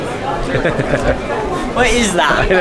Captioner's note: laughing